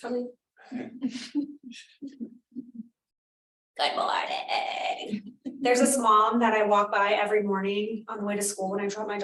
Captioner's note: laughter